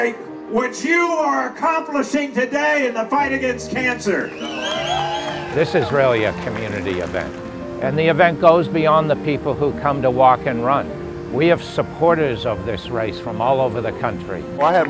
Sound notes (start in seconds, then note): 4.2 crowd applauding; 4.3 cheering